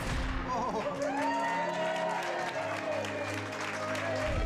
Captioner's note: cheering